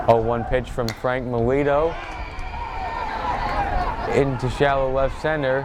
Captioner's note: bat cracks